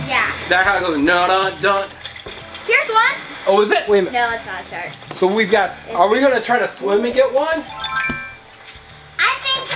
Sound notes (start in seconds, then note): 1.8 hums the Jaws theme; 7.6 chime sound effect